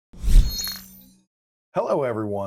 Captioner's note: graphics whooshing